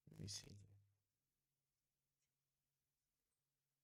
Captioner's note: silence